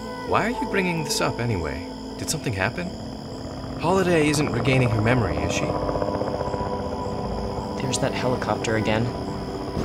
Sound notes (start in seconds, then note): 5.7 helicopter whirring